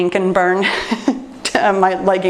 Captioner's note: laughs